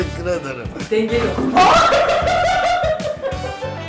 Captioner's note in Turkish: gülüşmeler